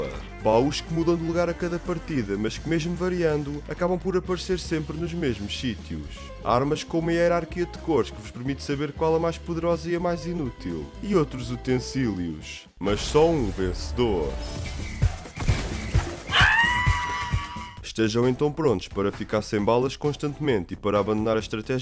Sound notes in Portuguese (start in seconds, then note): 16.3 Grito de vitória